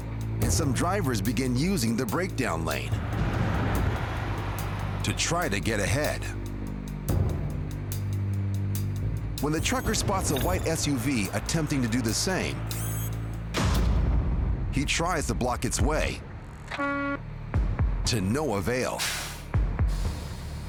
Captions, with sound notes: and some drivers begin using the breakdown lane to try to get ahead. When the trucker spots a white SUV attempting to do the same, he tries to block its way (horn honking) to no avail.